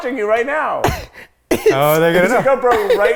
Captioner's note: laughs